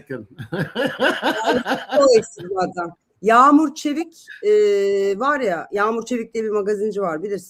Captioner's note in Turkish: kahkaha